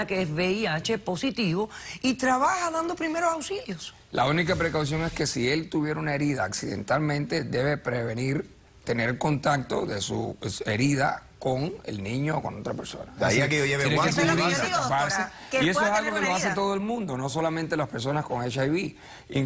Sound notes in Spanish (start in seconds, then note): 15.3 Hablan al unísono